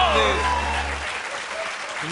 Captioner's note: laughter, cheers, applause